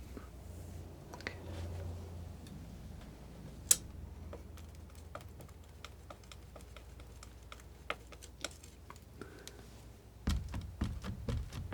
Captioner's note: scratching